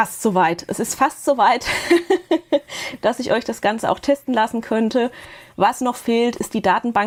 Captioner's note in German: Gelächter